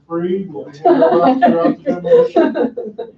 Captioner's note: laughing